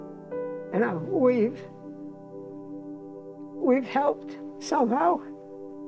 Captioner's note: chokes up